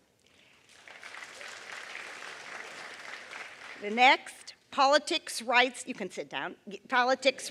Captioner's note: applause